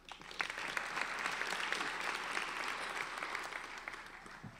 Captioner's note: applauding